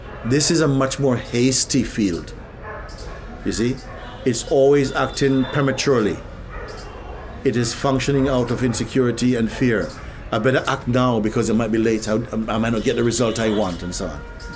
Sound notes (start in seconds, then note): none